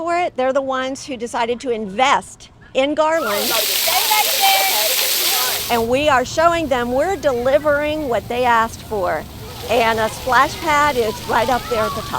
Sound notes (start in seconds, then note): 3.1 water Rushing